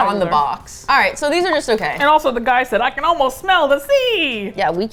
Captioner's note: cheerfully